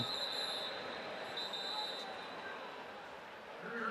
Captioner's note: whistle